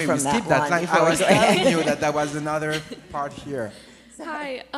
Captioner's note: laughs